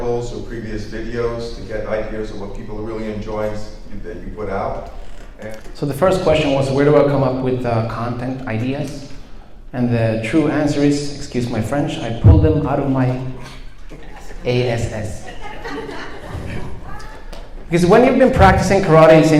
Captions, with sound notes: or previous videos to get ideas of what people are really enjoying that you put out? Thank you. - So the first question was where do I come up with content ideas? And the true answer is, excuse my French, I pull them out of my (whispers) ass. A-s-s. (audience chuckles) When you've been practicing karate